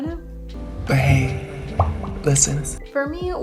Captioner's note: pop